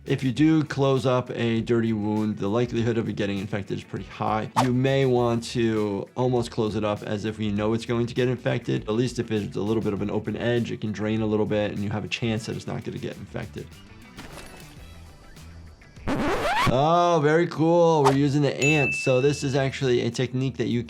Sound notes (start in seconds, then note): 13.8 animals calling; 13.8 upbeat music; 16.0 record scratching